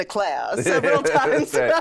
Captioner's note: laughter